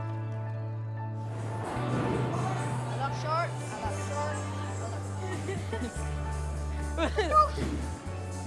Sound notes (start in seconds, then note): 5.3 laughter